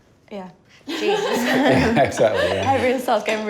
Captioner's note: laughs